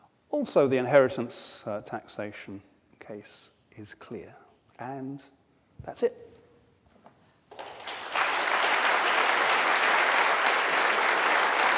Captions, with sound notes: Also, the inheritance taxation case is clear. And, that's it. (audience applauds)